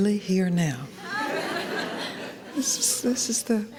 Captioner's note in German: Gelächter